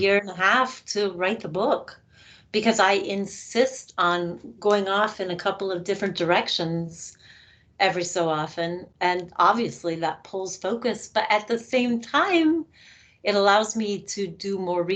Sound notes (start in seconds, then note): none